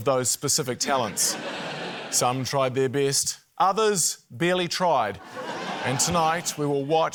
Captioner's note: laughter